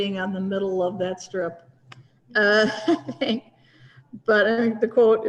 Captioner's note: laughter